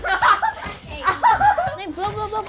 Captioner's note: child laughing